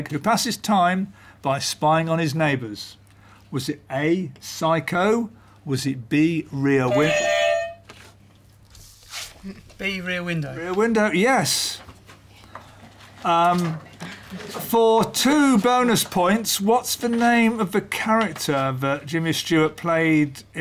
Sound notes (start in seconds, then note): 6.9 beep beep; 7.5 clang